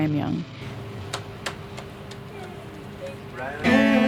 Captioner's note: clapping